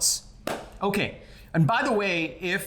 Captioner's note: hands clapping